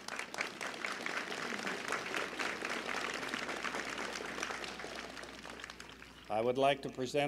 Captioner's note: applause